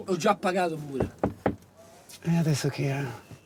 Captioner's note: knocking